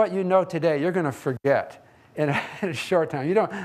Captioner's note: laughs